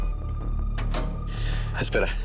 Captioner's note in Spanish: Pitidos